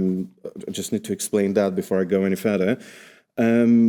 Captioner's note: none